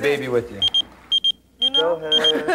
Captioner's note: pager beeping